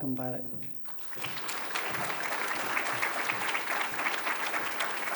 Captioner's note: applause